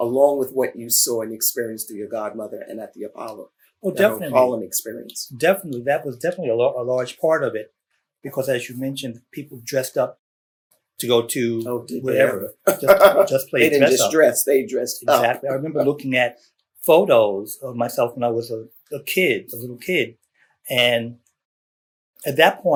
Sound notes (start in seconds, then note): 12.1 laughs